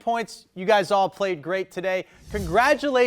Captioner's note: text whooshing